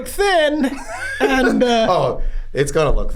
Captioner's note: Charlie laughs